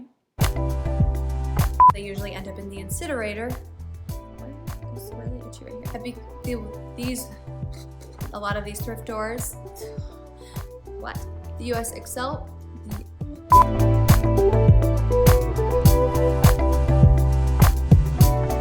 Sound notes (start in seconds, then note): 1.8 beep; 7.6 blows raspberry; 10.3 blows raspberry; 13.5 beep